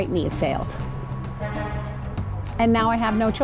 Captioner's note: truck horn honks twice